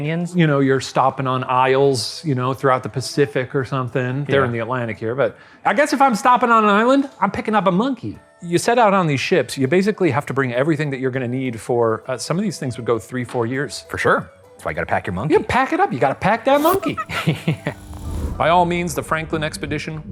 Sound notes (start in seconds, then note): 16.6 monkey chattering